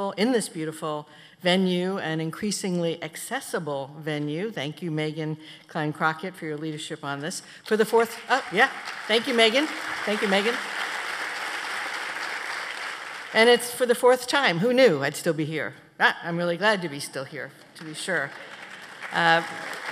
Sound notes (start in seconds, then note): 11.3 applause; 19.7 applause